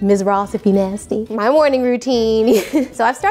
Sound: laughs

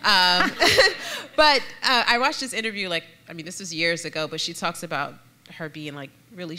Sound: laughter

